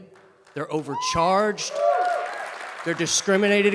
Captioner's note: audience cheers and claps